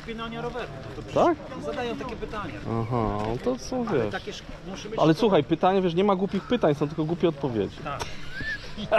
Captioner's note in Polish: śmiech